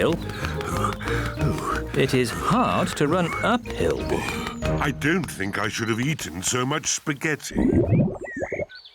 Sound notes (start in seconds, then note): 3.7 groans; 7.6 tummy rumbles